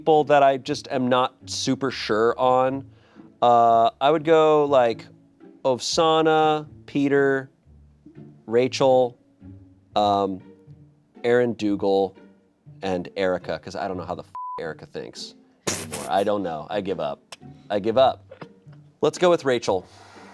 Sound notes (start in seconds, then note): 14.3 beep